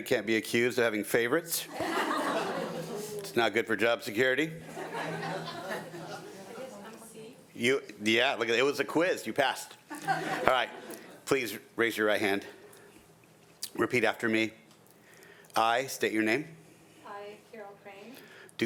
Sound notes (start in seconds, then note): 1.7 audience laughing